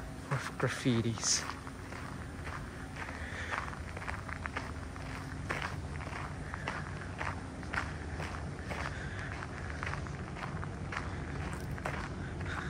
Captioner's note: walking on gravel